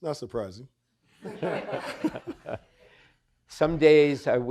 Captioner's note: audience laughing